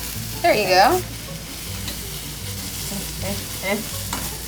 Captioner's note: sizzling